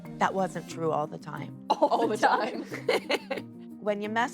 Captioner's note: both laugh; laughs